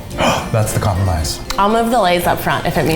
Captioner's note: gasps